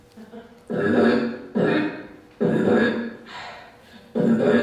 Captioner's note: beatboxing